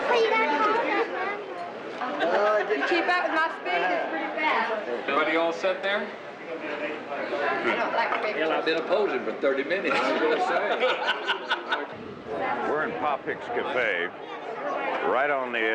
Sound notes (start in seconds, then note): 9.9 laughing